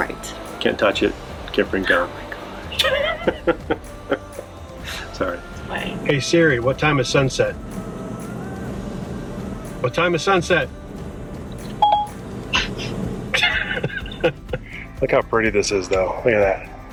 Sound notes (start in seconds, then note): 1.8 laughs; 11.8 iPhone beeps; 13.2 laughing